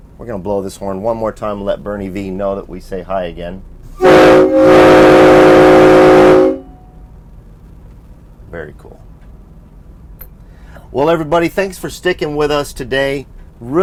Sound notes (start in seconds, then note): 3.9 coach honks